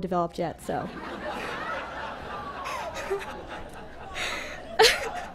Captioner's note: laughter